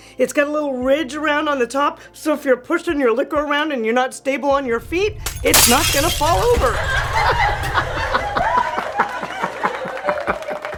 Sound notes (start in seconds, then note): 5.0 glass crashes; 6.6 crowd laughs